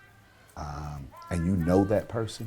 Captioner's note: people chanting